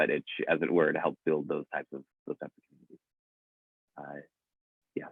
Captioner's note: audio cuts out